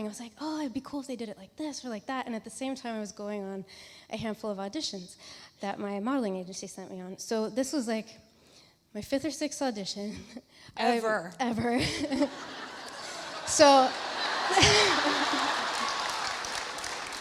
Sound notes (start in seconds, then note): 11.9 laughs; 12.0 audience laughs